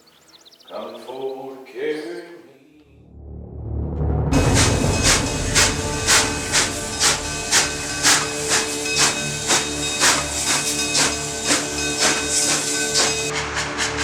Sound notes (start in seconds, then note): 3.7 dramatic music; 4.3 train chugging